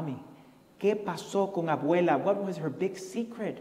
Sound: foreign language

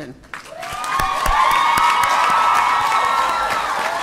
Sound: applause

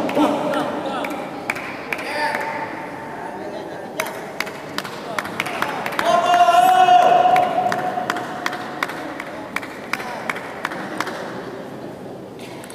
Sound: applause

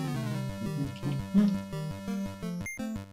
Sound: humming along

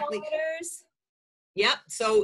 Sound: murmuring

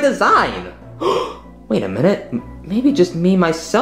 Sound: gasps

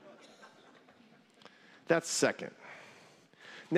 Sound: laughter

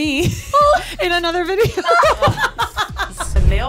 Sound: both laughing

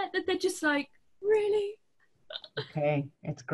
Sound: laughs

